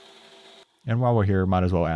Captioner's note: machine whirring